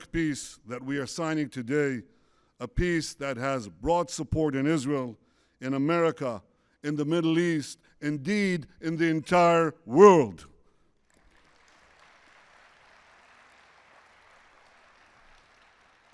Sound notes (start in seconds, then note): 11.0 applause